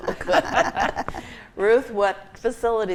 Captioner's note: group laughs